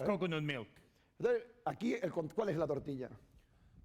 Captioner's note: speaking spanish